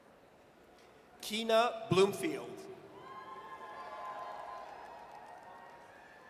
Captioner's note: audience cheers